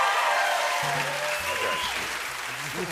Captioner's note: cheering and applause; whistling